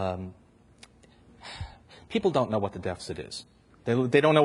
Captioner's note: sighs